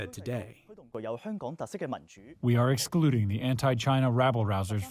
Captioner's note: through translator